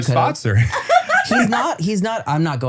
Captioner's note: laughs